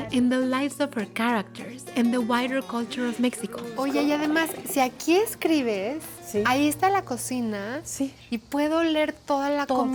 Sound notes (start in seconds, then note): 3.9 speaking Spanish